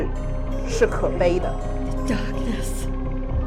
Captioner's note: Mandarin language; Mandarin language